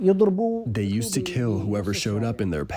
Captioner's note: through translator